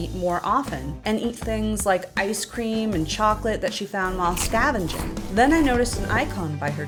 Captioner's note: munch, munch, munch, GULP